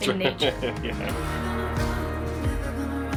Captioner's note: laughing